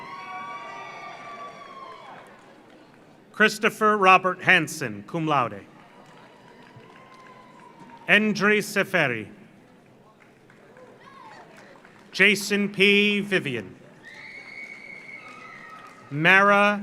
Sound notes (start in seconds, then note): 0.0 audience cheers; 0.0 audience applauds; 5.6 audience applauds; 5.7 audience cheers; 9.7 audience applauds; 10.8 audience cheers; 13.8 audience applauds; 14.0 audience cheers